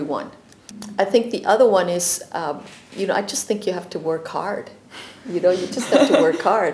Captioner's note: laughter